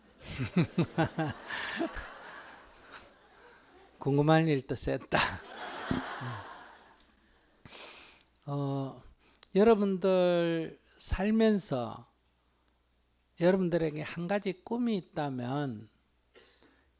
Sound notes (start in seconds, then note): 0.2 laughter; 5.2 audience Laughter